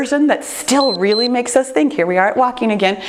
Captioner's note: timer beeps